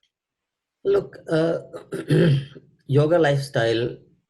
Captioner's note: clearing throat